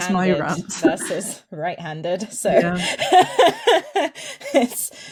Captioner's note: laughs